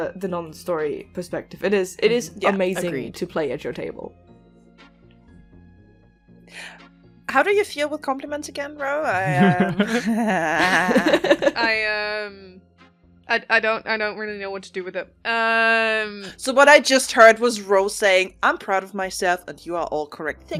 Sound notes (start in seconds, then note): 9.1 laughter